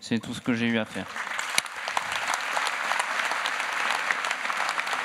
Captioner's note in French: Applaudissements